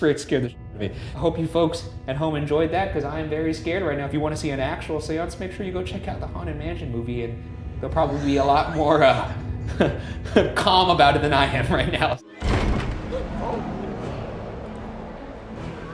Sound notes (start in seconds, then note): 12.4 door slamming; 13.1 intense classical music